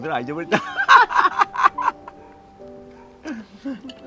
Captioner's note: both laughing